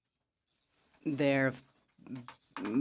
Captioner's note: speaking in French